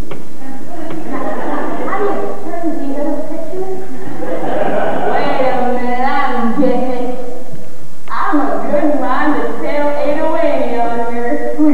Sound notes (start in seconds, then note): 0.7 laughter; 3.8 laughter